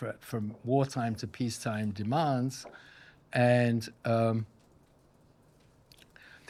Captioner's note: none